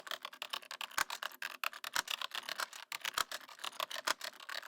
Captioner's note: typing